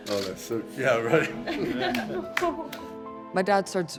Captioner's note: claps